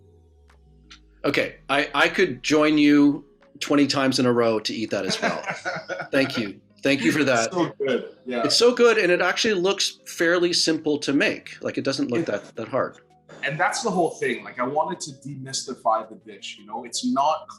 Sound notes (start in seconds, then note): 3.7 laughing